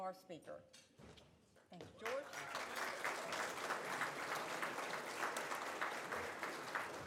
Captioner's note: audience applauds